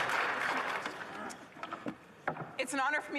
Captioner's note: applause